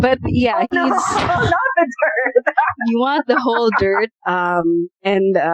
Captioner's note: laughter